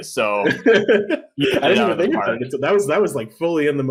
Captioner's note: laughs